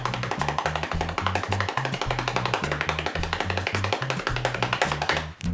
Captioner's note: hands tapping continues